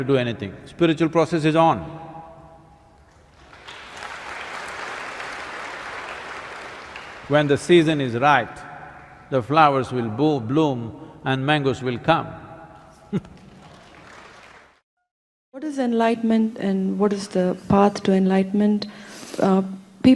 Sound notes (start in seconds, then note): 5.6 applause; 16.5 laughs